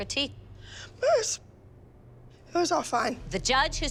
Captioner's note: exhales